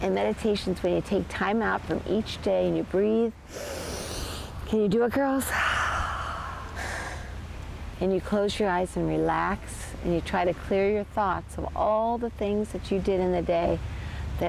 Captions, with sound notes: And meditation is when you take time out from each day and you breathe. [inhales] Can you do it girls? [exhales] And you close your eyes and relax, and you try to clear your thoughts of all the things that you did in the day,